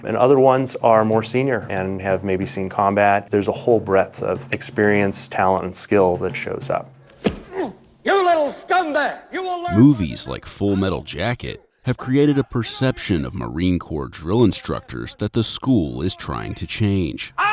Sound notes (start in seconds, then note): 7.1 fist thudding